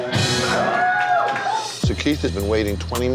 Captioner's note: crowd cheers